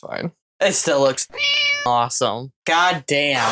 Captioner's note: meow